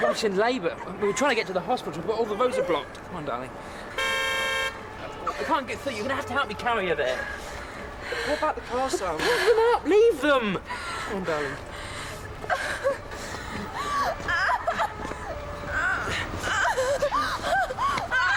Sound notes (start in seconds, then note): 3.9 car horn honking; 12.7 weeping